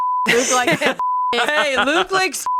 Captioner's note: beep; beep